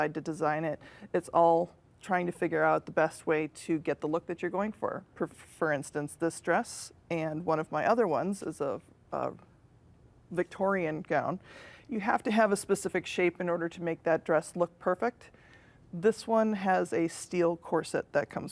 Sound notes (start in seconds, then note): none